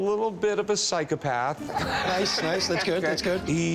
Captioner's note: both laugh